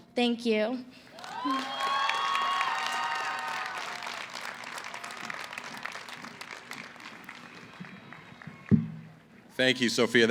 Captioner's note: cheering